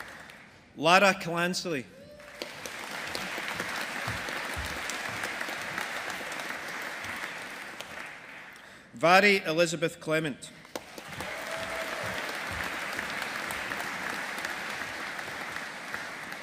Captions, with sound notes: Lara Clancy. (AUDIENCE APPLAUDING) Mhairi Elizabeth Clement. (AUDIENCE APPLAUDING)